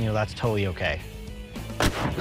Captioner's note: explosion